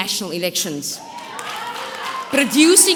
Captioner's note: audience cheering